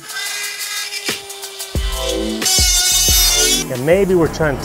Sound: drilling sound

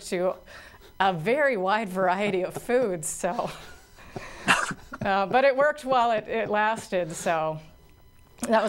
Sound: laughter

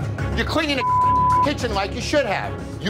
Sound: beep

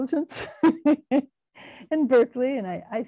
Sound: laughing

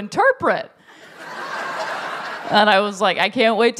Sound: laughter

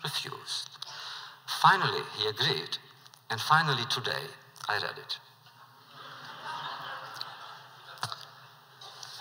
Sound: laughter

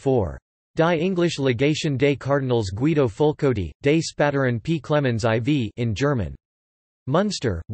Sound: in German

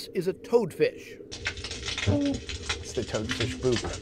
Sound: crackling and humming

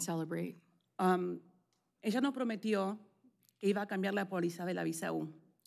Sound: speaking spanish

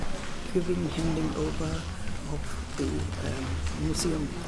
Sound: speaking in German

